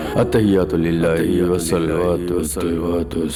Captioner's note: chanting